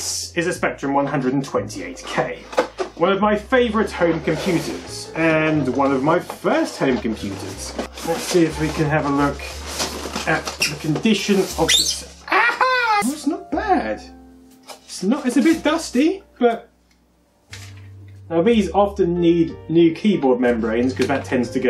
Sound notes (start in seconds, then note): 11.5 squeeeeeak